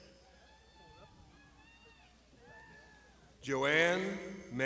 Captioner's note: crowd shouting